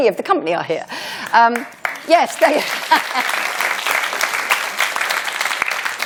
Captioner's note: applause